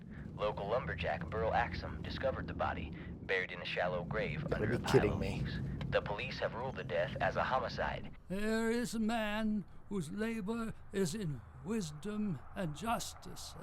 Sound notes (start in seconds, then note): 6.0 radio Announcer